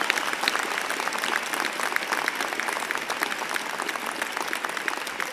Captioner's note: applause